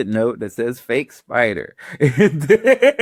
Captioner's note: laughs